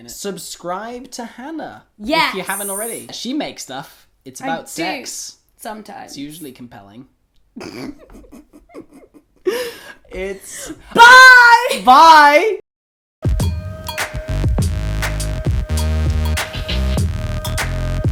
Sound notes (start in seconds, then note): 7.6 laughter; 13.3 electronic music